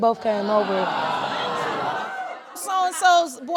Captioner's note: audience gasps